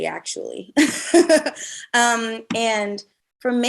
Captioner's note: Ashley laughs